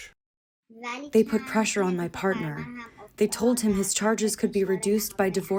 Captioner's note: through translator